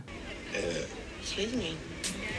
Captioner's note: burping